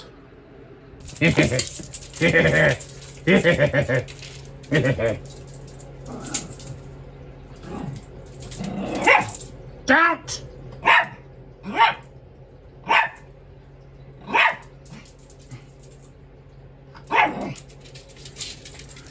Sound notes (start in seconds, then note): 1.0 gets off the couch and chuckles; 7.5 Ella growls then barks at Caprice; 10.8 barks